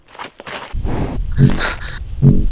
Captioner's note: footsteps; deep animal breaths